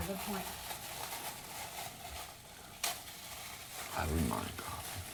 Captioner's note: plastic wrap rustling